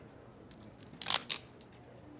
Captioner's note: sound of tape being peeled off